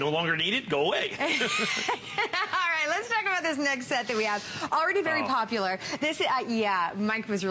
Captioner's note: laughter